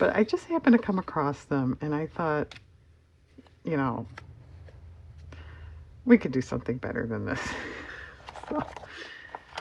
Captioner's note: laughs